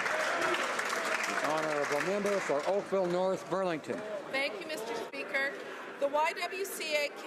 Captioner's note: some Applause